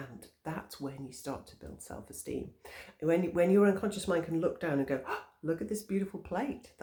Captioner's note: gasp!